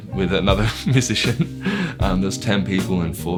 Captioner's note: laughs